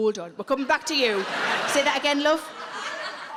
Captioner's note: audience laughing